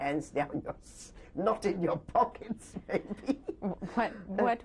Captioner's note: laughs